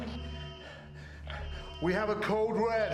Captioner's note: alarm blaring